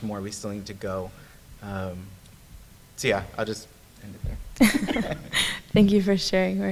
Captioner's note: laughs